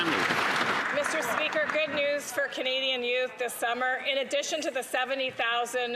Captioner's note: some Applause